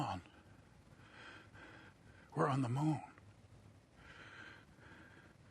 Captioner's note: breathing heavily